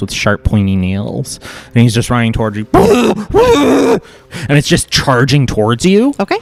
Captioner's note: makes the screaming burbling sound